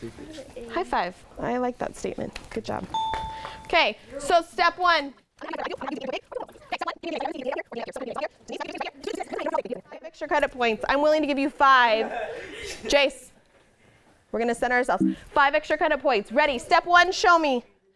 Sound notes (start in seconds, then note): 2.9 ding; 11.9 laughter; 15.0 error sound